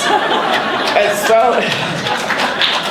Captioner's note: applauding